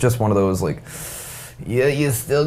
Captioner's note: inhaling sharply